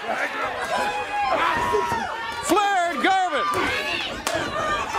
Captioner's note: crowd cheering